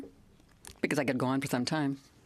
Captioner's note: speaking french